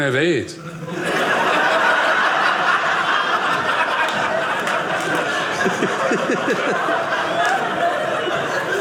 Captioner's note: audience laughing